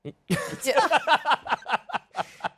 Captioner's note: laughs